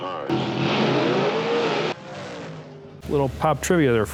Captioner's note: engines revving